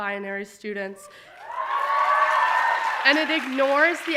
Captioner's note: audience applauding and cheering